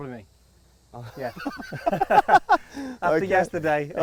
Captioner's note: laughing